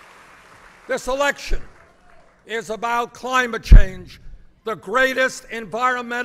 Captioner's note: applause